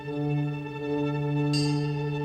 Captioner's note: ship bells chime; ship horn blares; ship bells chime